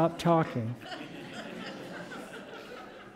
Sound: laughter

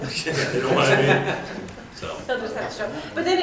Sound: attendees laughing

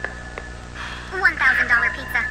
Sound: sighing

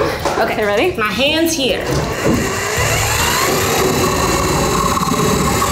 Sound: jigsaw whirring

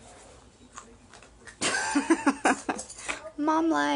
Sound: laughs

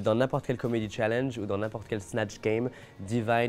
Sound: speaking French

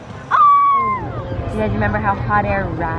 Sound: girl yelling

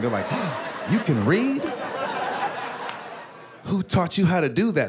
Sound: gasps

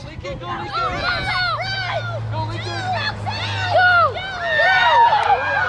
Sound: kids and parents cheering

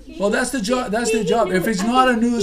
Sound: voiceover

